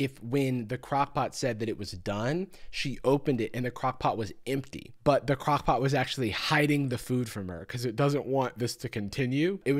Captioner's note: none